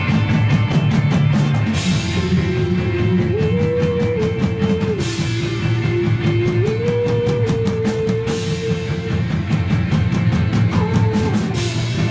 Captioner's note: a lot of oooo's and aaaaaa's